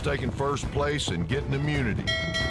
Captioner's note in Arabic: يرن الجرس